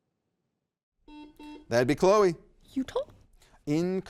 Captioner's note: buzzer beeps